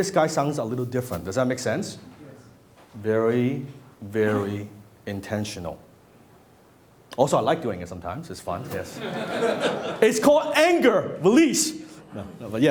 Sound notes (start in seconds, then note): 8.9 laughter